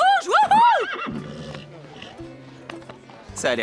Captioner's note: horse neighing